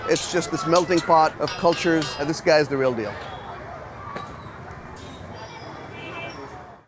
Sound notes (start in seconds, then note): 4.0 locals chattering; 4.0 traffic buzzing